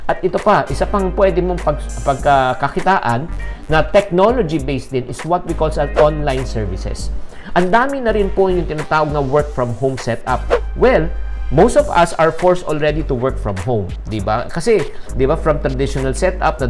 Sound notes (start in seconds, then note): 10.4 swoosh